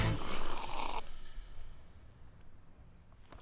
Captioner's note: Slurps iced coffee